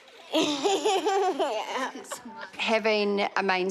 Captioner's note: giggles